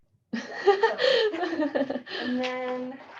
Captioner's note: laughter